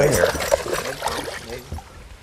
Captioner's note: splash